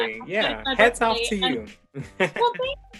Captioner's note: chuckles